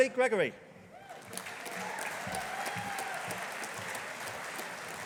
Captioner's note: audience applauding